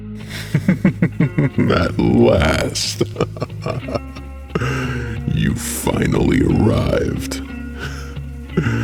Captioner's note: sinister Voice